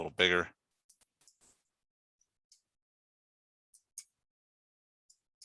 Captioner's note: mouse clicking